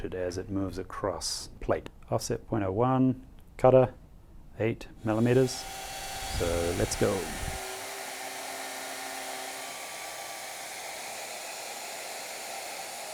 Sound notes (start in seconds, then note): 8.2 machine cutting